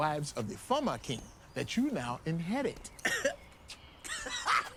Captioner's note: Sebastian coughs; Sebastian laughing